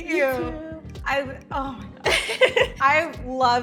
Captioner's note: laughs